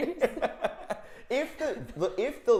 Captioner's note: laughing quickly